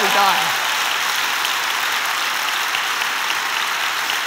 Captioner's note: applause